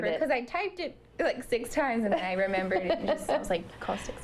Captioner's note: laughter